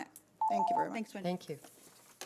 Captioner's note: timer beeps